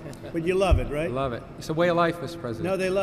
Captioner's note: laughter